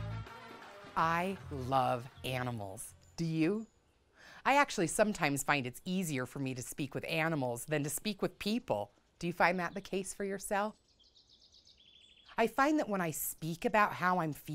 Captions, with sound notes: - I love animals. Do you? I actually sometimes find it easier for me to speak with animals than to speak with people. Do you find that the case for yourself? (birds chirp softly) I find that when I speak about how I'm feeling,